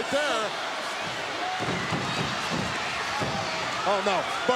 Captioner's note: applause